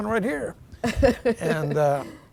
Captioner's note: laughing